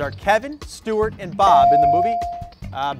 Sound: bell dings

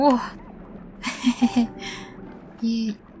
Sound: laughter

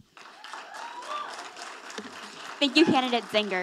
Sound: audience applauding

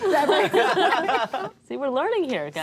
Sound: all laugh

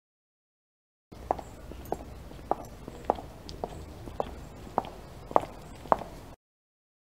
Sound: sound of footsteps on heels

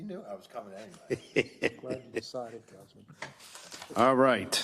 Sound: laugh

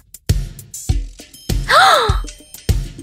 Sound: gasp

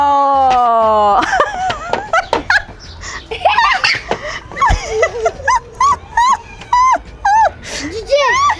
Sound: laughter

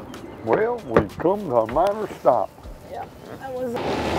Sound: engines roar

